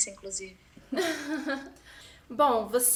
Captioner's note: laughs